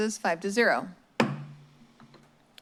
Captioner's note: strikes gavel